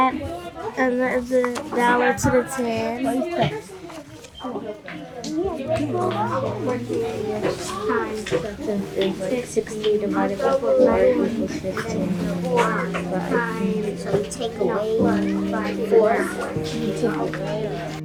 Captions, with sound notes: - Add that one to the 10. (students chattering) (soft gentle music)